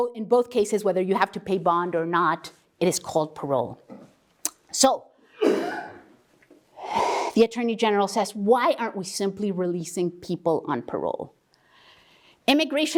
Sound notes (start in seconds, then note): 5.4 cough